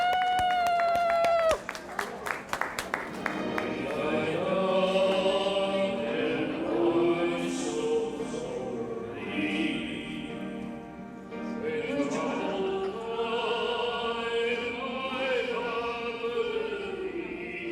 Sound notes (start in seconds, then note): 4.7 applause